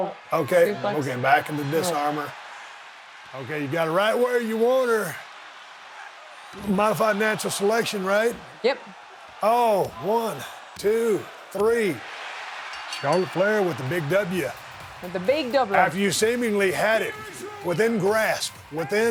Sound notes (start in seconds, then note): 12.2 audience cheering